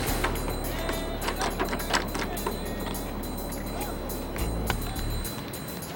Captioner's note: door knob being jiggled